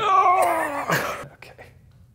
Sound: straining

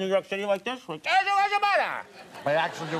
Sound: Conan mumbles

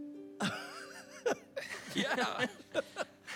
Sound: laughs

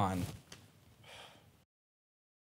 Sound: sigh

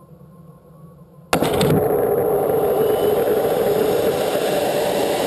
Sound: loud rocket blast

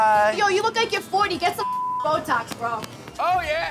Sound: beep

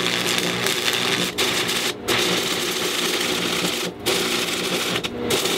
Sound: welding sounds

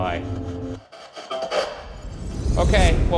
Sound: garbled voice from spirit box; dark tense music

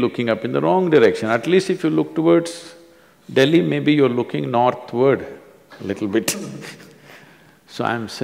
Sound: both laugh

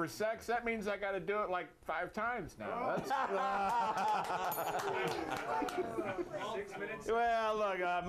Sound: applause; bell rings

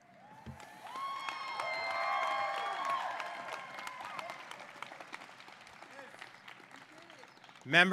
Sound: applause

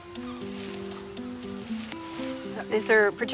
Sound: gentle acoustic music; seagulls squawking

